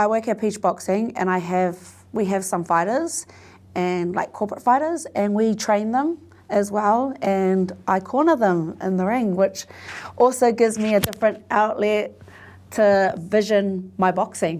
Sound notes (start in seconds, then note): none